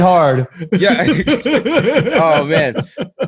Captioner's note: laughs